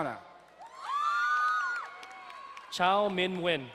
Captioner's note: crowd cheering and applauding